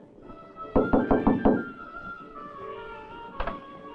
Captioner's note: soft dramatic music; knocking